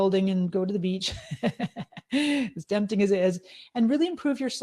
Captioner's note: laughing